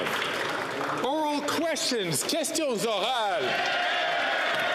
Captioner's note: some Applause